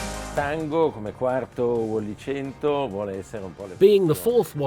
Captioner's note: speaking in foreign language